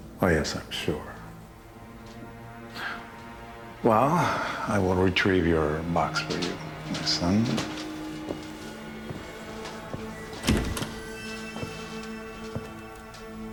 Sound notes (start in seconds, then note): 4.5 suspenseful music; 5.5 door opens; 10.5 suspenseful music